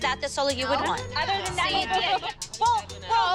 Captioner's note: clamoring